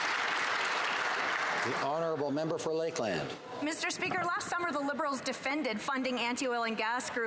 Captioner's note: applause